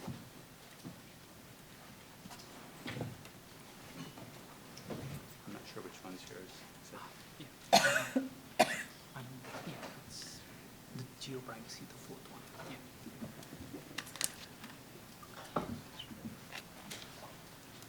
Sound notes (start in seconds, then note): 7.2 man muttering